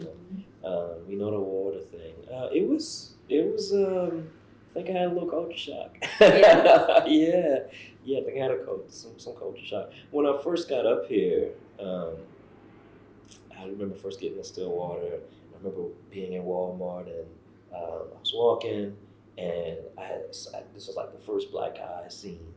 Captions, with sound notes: We know the water thing. It was—I think I had a little culture shock. (Laughs) I think I had some culture shock. When I first got up here, I remember first getting to Stillwater, and I remember being in Walmart. I was walking, and this was like the first black guy I’d seen